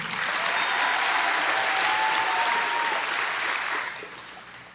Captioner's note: applause